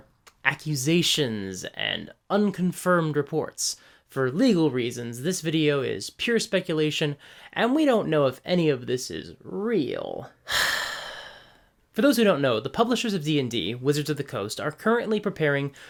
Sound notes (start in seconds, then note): 10.4 sigh